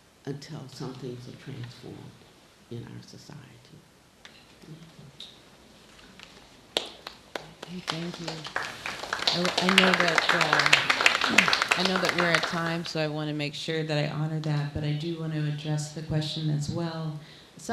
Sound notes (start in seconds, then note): 6.7 applauding